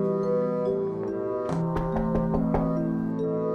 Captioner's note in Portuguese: batidas na parede frontal